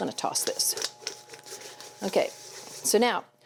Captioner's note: vegetables rustling